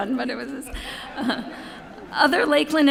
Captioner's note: laughter